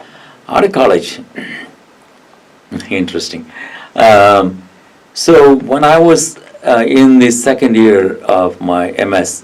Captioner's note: clears throat